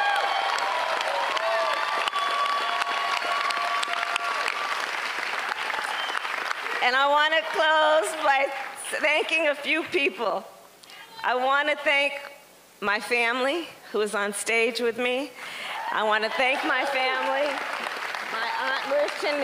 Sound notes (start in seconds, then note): 4.2 cheers and applause; 4.2 laughter